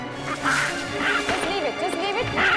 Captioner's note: Fred hissing